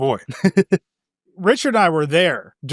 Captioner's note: laughs